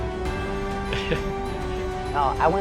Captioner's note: laughs